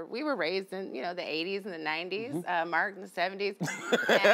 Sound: laughs

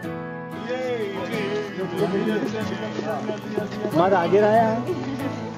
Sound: foreign Language Spoken

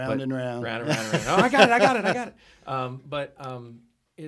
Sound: laughing

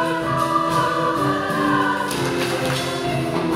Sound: claps

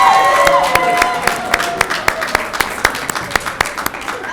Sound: cheering and applauding

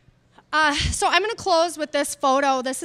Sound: none

